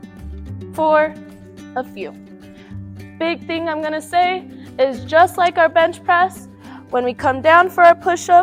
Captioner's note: breaths